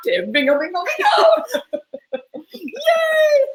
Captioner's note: laugh